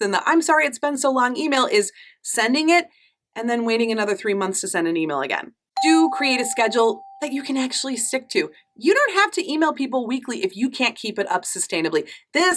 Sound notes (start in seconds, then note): 5.8 affirmative dinging